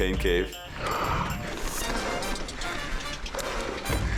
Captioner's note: panting